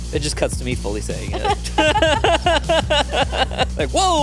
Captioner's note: upbeat music; laugh